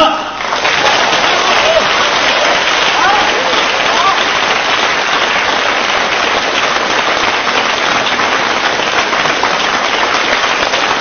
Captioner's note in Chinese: 众人鼓掌声